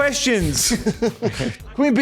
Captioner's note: laughs